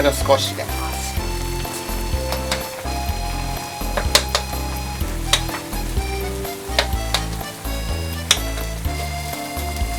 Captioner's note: in Japanese, Soumi Shantan DX